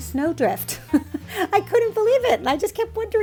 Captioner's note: laughs